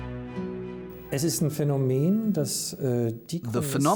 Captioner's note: speaking German